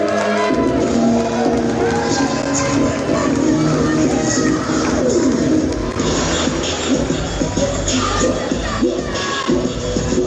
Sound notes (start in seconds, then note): 2.0 crowd clapping and cheering; 7.4 hip hop music